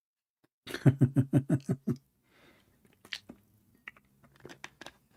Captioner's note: Ketawa